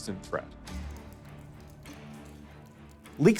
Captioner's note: water dripping; tense music